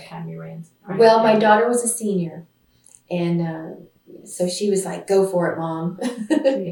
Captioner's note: laughs